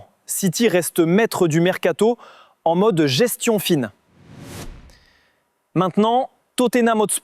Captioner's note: 2-second sound effect